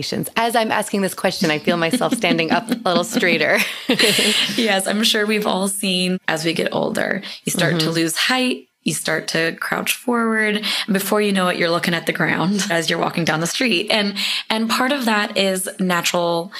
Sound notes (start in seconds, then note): 3.5 laughing